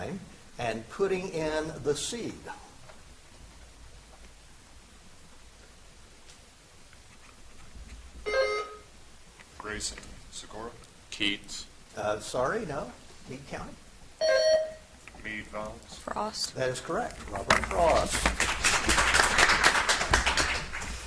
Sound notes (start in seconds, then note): 8.2 buzzer chimes; 14.2 buzzer chimes; 17.3 audience applauds